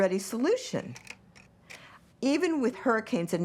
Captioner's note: slide shifting